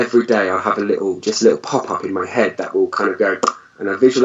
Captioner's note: mouth pops